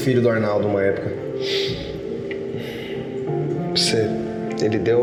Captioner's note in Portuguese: Suspiro